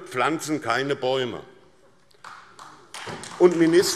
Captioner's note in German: Beifall SPD